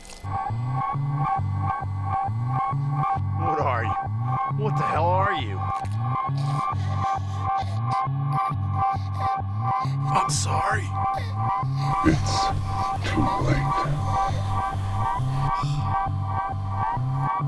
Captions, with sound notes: (suspenseful music) What are you? What the hell are you? (gasping) I'm sorry. - It's too late.